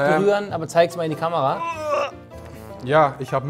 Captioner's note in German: Ächzen